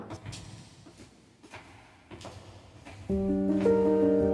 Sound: footsteps echoing; somber music

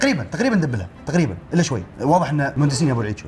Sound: none

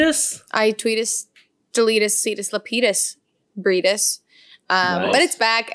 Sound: speaks foreign language

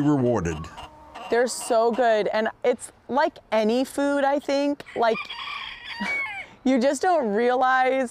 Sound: laughter

